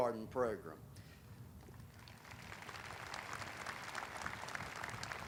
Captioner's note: audience applauding